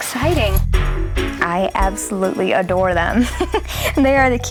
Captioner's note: chuckles